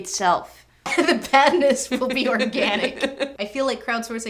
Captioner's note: laughter